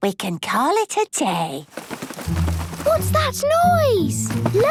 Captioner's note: scuffling